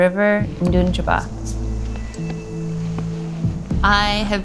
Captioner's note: speaks Indigenous language